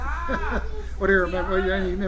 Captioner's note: laughs